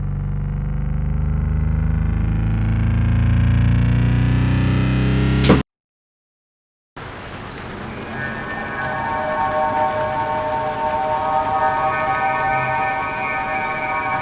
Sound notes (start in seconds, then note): 8.1 odd music; 9.6 rain